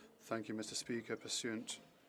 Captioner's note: speaking French